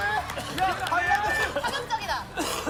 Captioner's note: coughing